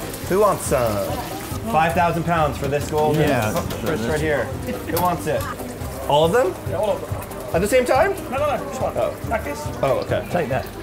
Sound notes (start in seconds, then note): 6.9 pops